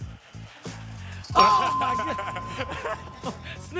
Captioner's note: bell dings